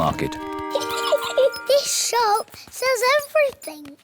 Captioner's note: giggles